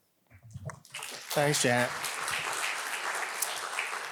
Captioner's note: audience applauding